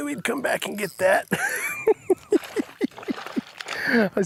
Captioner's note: giggling